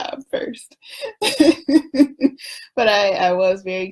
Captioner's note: laughs